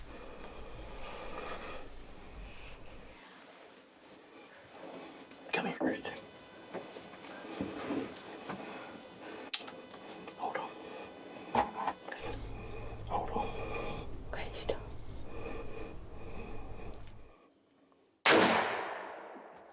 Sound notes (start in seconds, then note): 7.9 whispers; 9.3 gun clicks; 11.7 whispers; 15.4 whispers; 18.2 gun fires